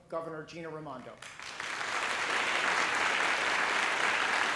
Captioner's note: applause